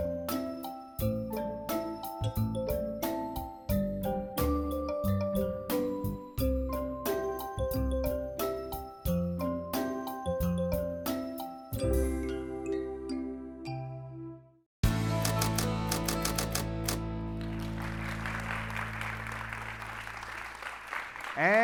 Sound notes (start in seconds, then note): 15.2 typewriter typing; 17.2 audience clapping